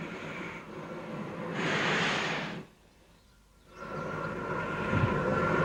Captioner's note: train passes